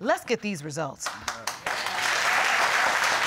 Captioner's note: audience applauding